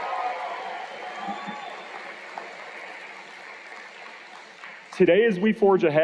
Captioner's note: cheers and Applause